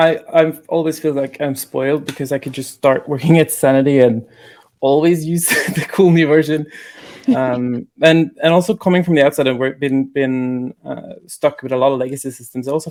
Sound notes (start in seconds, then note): 7.0 laughing; 7.0 woman laughing